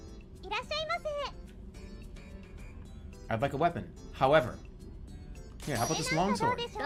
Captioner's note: none